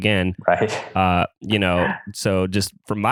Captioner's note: laughs